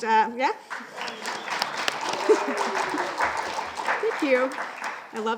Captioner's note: audience applauding